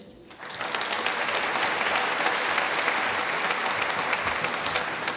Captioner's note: applause